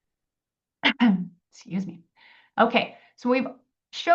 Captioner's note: coughs